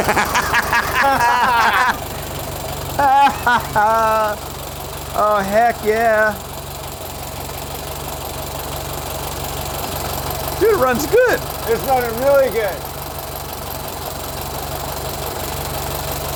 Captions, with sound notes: (guys laugh) - Oh heck, yeah. (engine idles) Dude, it runs good. - It's running really good. (engine idles)